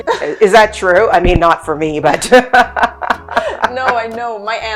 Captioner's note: laughing